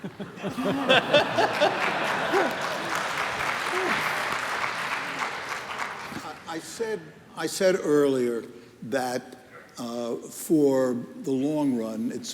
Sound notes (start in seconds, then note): 0.0 laughter; 0.7 applause